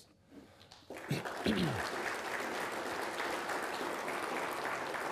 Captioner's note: people applauding